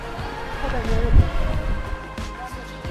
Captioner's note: in Swiss German